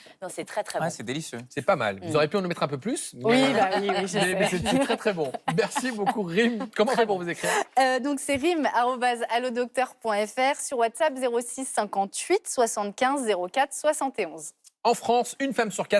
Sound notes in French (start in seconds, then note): 3.3 rires